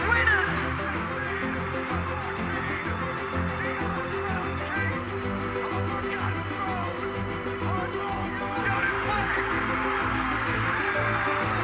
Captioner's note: cheering